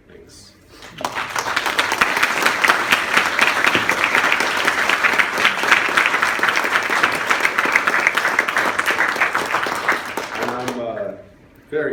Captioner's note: applause